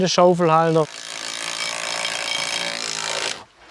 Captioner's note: metallic rattling